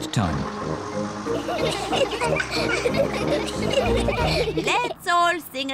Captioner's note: all giggle